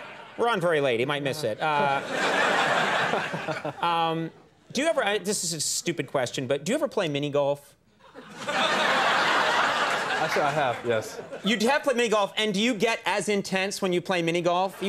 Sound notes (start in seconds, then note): 1.4 audience laughs; 8.1 audience laughs